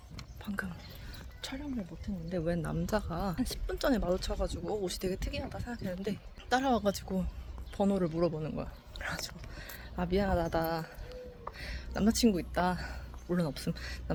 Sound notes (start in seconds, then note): 8.8 in Spanish